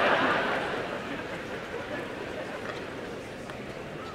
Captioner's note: crowd murmurs and laughs